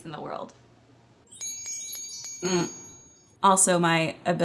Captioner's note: sparkling effect